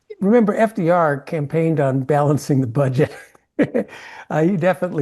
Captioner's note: laugh